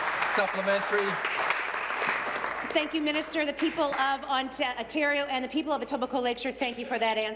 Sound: applause

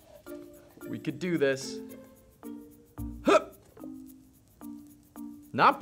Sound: grunts

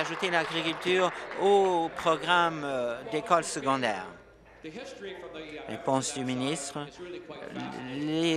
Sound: applause

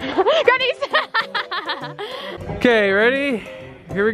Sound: laughing

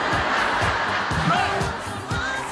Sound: laughter

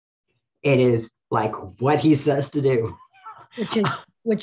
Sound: laughs

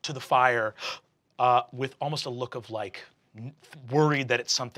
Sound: gasps

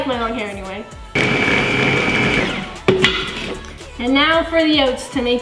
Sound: blender running

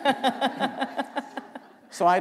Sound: laughter

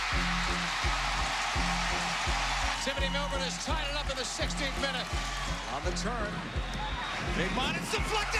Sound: tv announcer; cheering

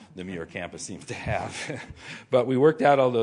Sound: laughter

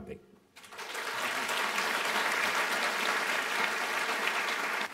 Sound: applause

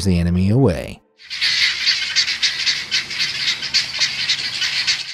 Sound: guineafowl squawking

